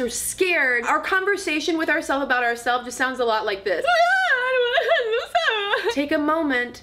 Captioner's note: crying loudly